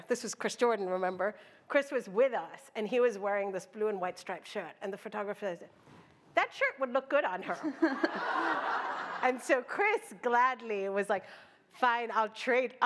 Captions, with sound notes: this was Chris Jordan, remember? Chris was with us. And he was wearing this blue and white striped shirt. And the photographer is, that shirt would look good on her. [LAUGHTER] And so Chris gladly was like, fine, I'll trade.